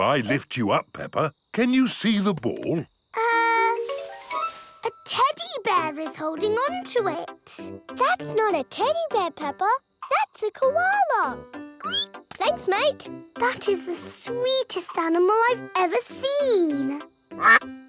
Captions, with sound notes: If I lift you up, Peppa, can you see the ball? Er, a teddy bear is holding on to it! That's not a teddy bear, Peppa! -That's a koala! -(SQUEALS) Thanks, mate! That's the sweetest animal I have ever seen!